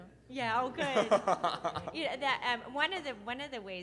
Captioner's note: laughing